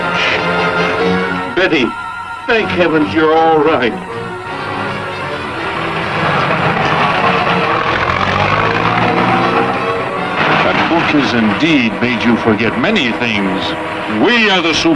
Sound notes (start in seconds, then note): 1.6 dramatic music; 7.1 car revving